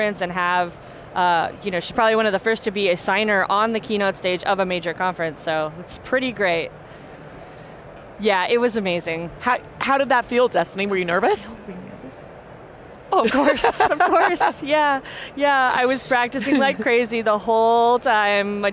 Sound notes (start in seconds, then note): 13.2 laughs